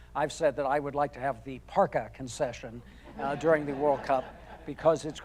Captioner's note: audience laughing